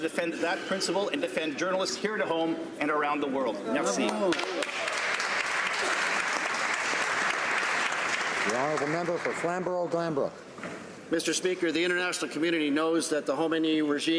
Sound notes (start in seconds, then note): 9.5 some Applause